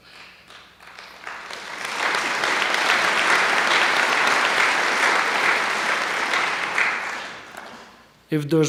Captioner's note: applause